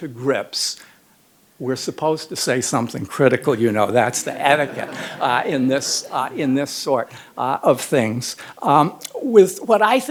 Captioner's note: laughter